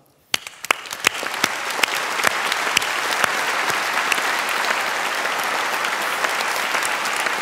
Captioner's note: applause